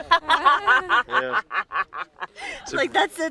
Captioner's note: laughs